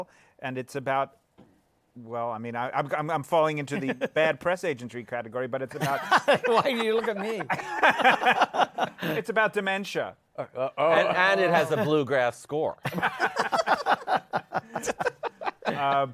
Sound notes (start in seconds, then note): 8.0 laughter; 12.8 laughter